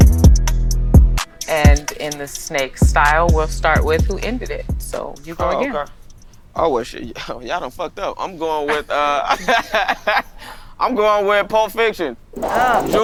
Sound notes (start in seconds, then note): 7.7 laughing